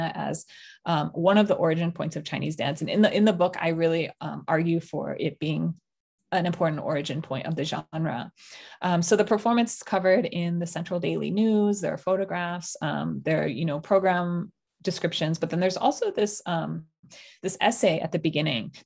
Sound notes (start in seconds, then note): none